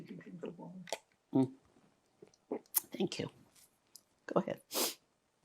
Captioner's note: drinking